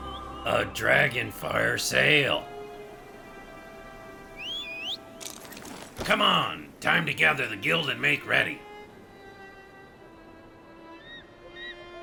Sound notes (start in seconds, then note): 4.3 whistles